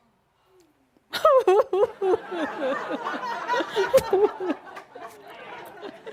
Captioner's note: laughter as she pretends to cry and Adamus pretends to play the violin